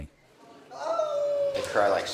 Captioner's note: Iraqi man crying